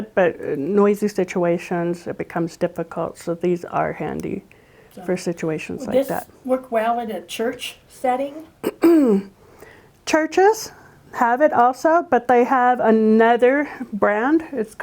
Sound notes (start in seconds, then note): 8.6 clears throat